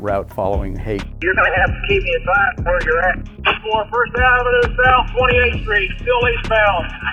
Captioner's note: radio transmissions